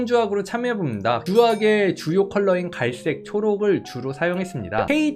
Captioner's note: voiceover